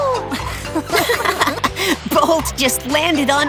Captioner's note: laughing